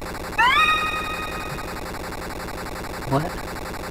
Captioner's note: Care screams